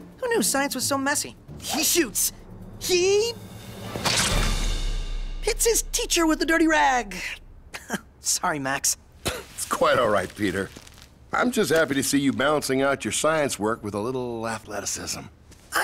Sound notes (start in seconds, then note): 4.0 splat